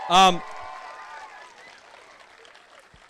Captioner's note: cheering